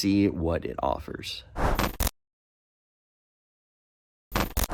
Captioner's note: dynamic woosh